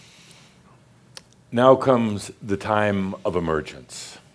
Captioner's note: none